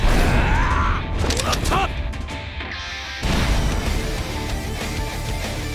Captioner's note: groaning